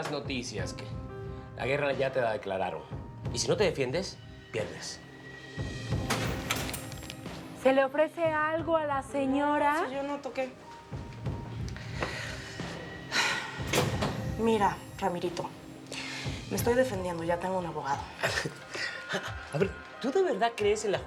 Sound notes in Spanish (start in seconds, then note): 5.9 Sonido de puerta al abrir; 12.4 Sonido de puerta al cerrar